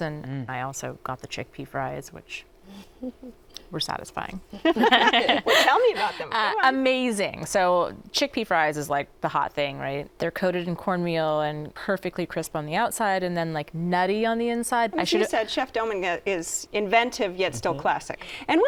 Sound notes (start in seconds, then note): 4.6 laughter